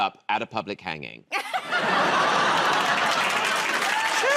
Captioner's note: laughter